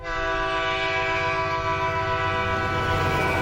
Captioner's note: horn blasts